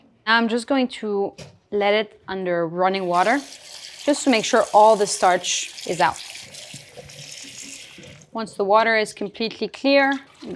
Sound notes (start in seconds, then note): 6.4 water sloshing